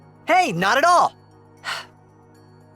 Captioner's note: exhales sharply